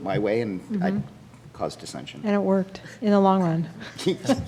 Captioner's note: laughing